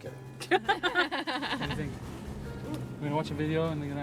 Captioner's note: laughing